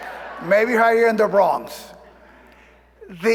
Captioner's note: applause